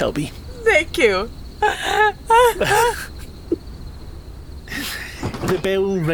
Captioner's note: both laugh